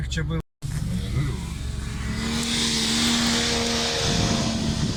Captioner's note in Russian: Звук рёва мотора